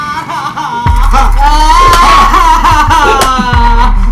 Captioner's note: Mari crying